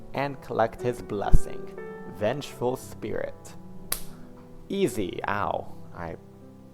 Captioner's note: clap